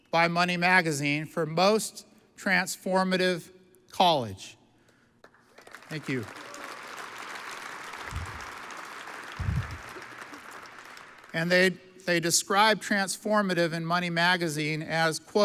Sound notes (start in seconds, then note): 5.3 audience applauds